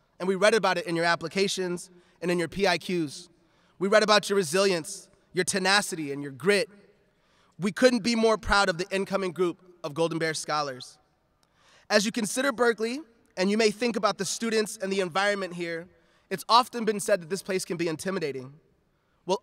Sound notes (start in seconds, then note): none